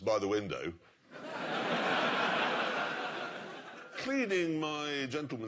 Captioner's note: laughter